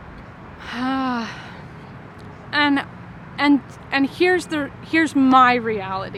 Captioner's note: sighing